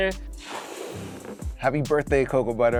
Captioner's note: ballon inflating